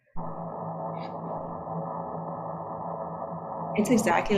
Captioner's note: ship noise